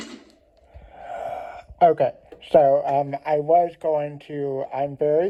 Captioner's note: segue music; sighs